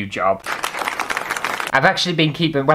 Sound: applause

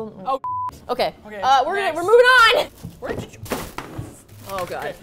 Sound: stuff falls

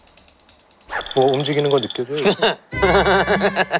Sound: brr

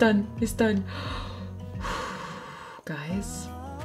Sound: sighs

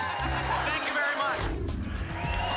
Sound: whoosh; applause and cheering

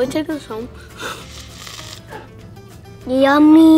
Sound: slurping

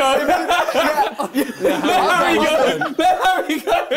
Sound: both mumbling

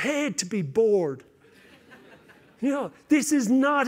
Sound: laughter

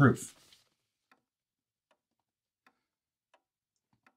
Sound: clock ticking

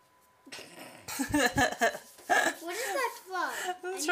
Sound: both laughing

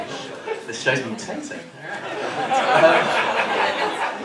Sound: laughter

